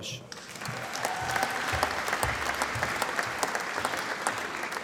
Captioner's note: applause